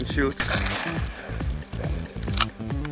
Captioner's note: gun fires